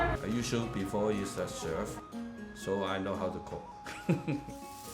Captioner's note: chuckles